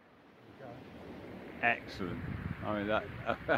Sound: laughs

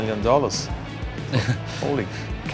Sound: laughing

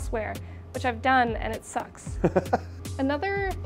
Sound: laughs

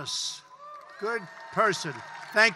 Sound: applause

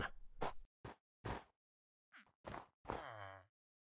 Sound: footsteps

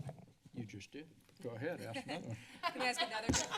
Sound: laughs

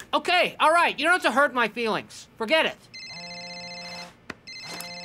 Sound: phone ringing

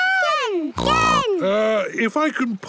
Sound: snorts

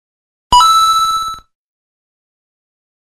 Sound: mario coin ding

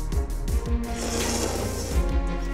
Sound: slurping

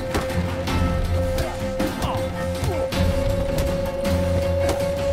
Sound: punches land

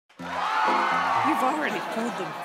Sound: audience applauding and cheering

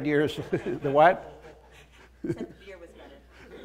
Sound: laughter

